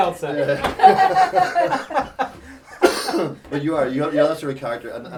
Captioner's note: laughing